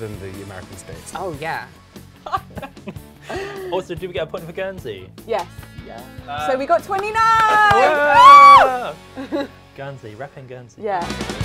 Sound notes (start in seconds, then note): 7.1 both cheer; 10.8 upbeat rock music